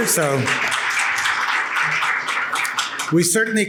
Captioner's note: audience clapping